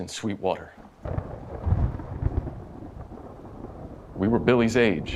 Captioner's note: thunderstorm